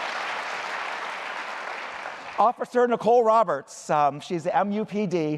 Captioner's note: applause